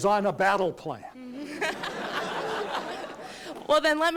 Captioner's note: laughter